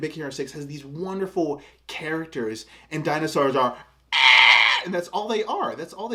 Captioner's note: makes extremely accurate dinosaur noise